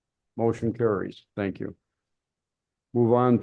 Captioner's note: silence